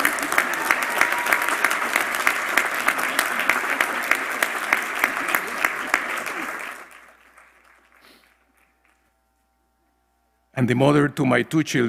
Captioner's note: applause